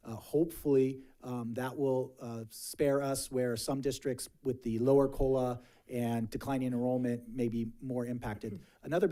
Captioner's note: none